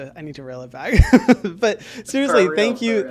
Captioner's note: laughs